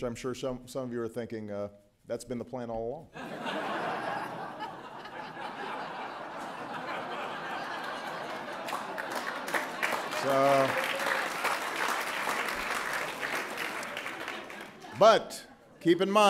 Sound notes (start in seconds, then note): 9.0 laughter